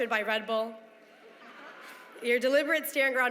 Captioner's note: laughter